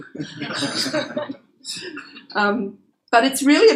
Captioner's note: laughter